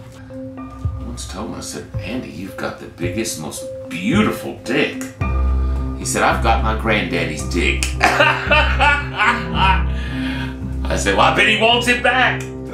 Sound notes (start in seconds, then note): 8.0 laughing